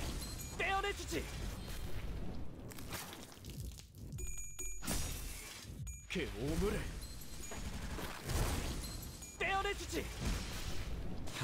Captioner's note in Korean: 3차 스킬 소리